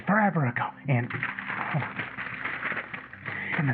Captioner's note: rustling